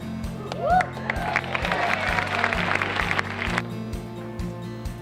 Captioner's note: crowd cheers